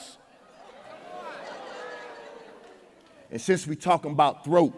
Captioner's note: audience exclaiming